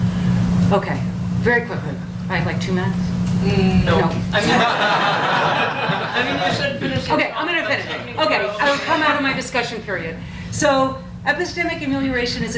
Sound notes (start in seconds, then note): 4.3 audience laughs